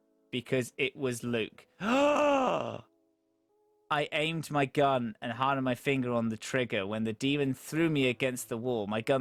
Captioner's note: dramatic gasp